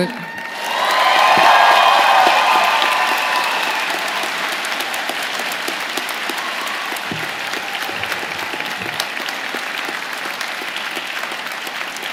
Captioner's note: cheers and applause